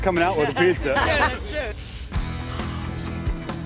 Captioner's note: laughs; upbeat music